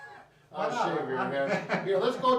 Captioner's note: laughing